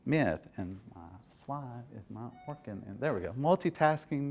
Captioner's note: murmurs